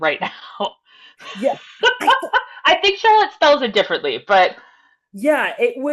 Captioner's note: laughs